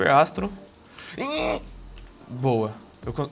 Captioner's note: sounds of suffering